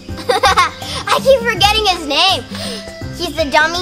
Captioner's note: giggles